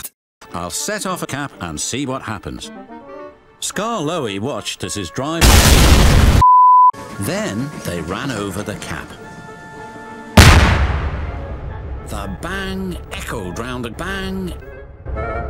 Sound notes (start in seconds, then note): 5.4 explosion; 10.4 bang